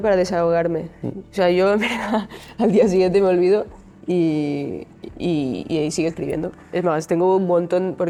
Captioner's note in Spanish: risas